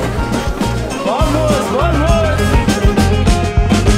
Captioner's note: merchant calls